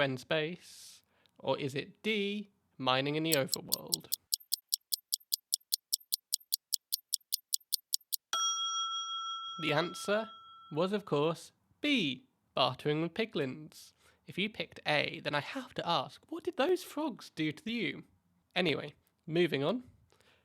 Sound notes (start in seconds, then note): 3.3 ticking Sound; 7.6 ding